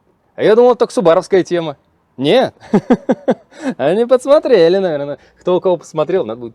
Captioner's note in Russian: смех